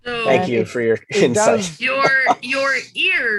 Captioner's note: chuckles